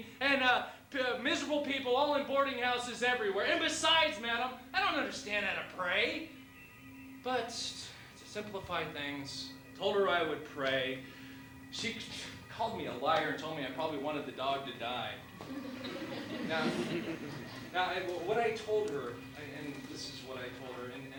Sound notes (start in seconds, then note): 15.4 laughter